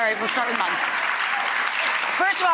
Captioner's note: audience clapping